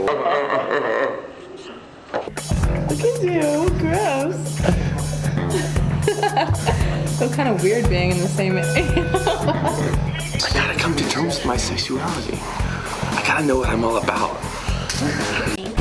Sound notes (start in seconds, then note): 0.0 slowed down laughs; 7.1 laughs